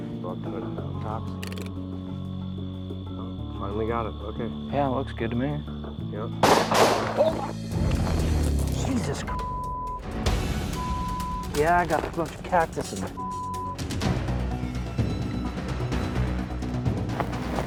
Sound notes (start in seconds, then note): 6.4 gunshots; 13.7 tense music